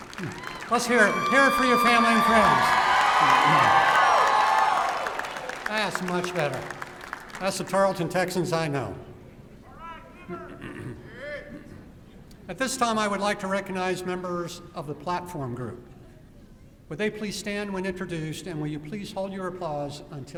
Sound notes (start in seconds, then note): 2.4 louder applause and cheering; 9.5 shouting